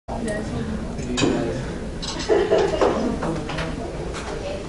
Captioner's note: classroom chatter